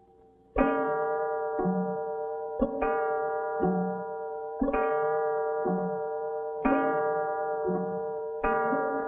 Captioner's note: clock strikes twelve